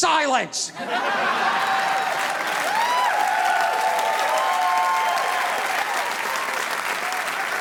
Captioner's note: audience laughing; audience applauding